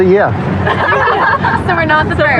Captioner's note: laughghteter